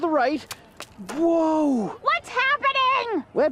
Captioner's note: footsteps